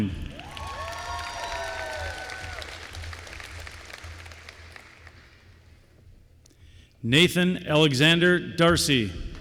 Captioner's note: applause